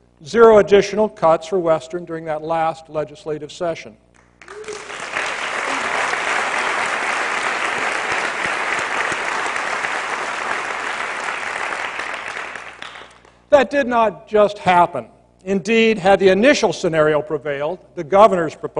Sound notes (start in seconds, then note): 4.4 applause